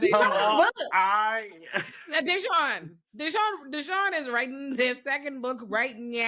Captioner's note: laughs